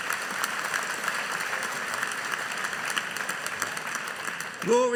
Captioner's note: audience applauding